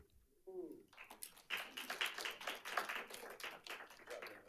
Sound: audience applauds

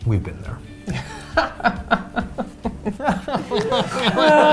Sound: laughs

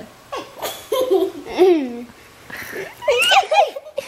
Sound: kids laughing

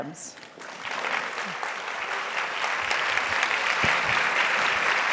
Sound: audience applauding

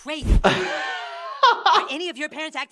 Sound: amused chuckling

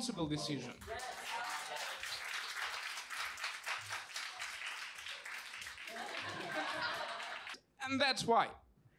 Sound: people clapping

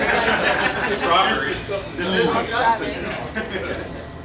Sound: crowd

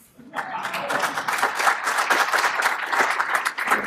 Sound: applause

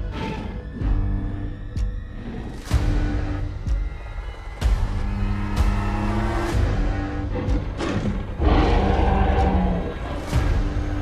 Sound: T-Rex chomping and growling

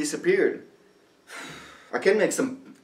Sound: Oliver sighs

